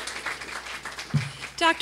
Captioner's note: applause